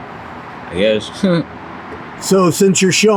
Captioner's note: chuckles